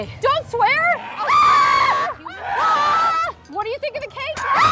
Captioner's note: screams; screams